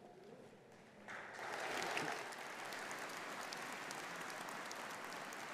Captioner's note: audience applauding